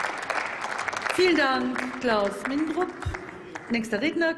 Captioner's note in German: Applaus